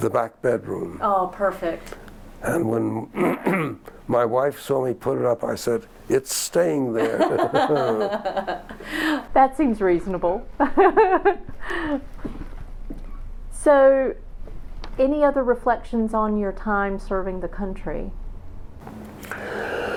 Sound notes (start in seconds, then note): 7.0 laughter